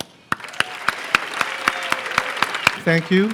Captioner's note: applause